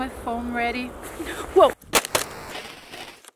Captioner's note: crash!